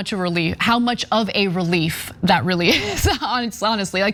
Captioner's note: laugh